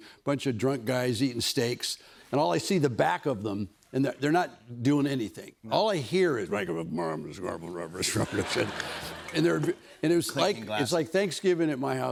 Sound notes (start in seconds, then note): 7.7 grumbling